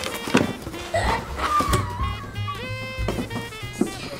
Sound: gasps

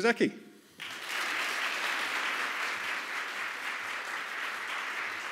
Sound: applause

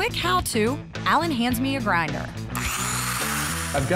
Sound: grinding noise

